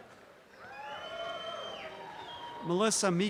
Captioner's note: audience cheering